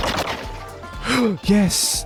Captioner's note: gasp